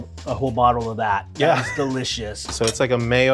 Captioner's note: laughing